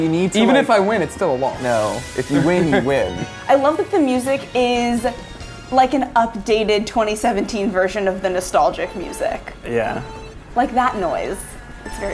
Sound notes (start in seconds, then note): 8.0 beeps